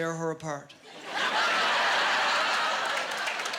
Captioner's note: laughing and applause